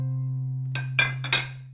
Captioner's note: dishes clatter